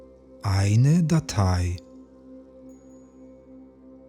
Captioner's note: german